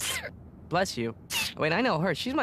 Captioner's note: sneezes